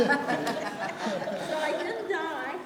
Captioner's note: audience laughing